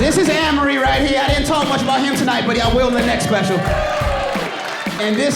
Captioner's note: audience cheering